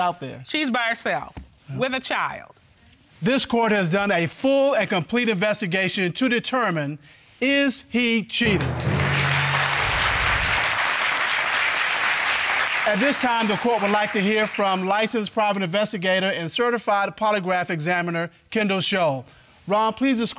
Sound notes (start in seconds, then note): 9.9 audience clapping